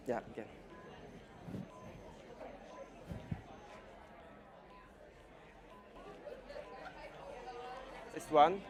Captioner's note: background Discussion and Beeping Timer